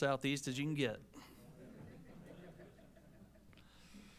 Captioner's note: laughter